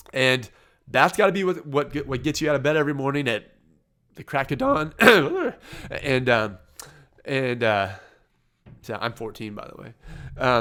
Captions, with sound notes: And that's gotta be what gets you out of bed every morning at the crack of dawn. (voice cracks, coughs) I'm 14 by the way.